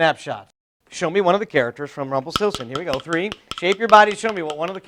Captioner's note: makes rhythm with sticks